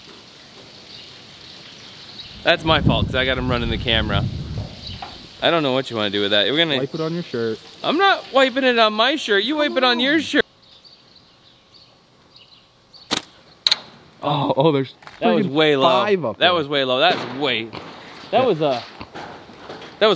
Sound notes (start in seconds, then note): 13.1 clanking clay shot